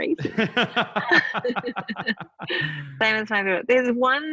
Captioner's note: laughing